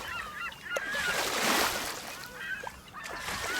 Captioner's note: waves and seagulls